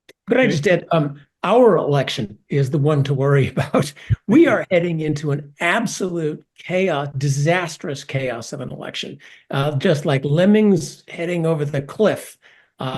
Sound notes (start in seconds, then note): 3.4 laugh